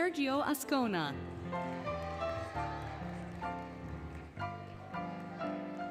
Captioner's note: applause, Cheering, Music